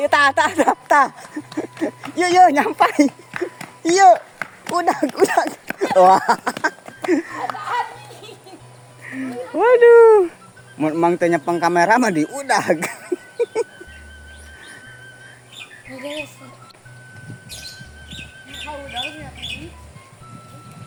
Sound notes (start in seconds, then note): 4.7 laughs